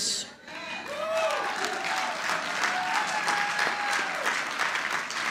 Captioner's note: audience applauding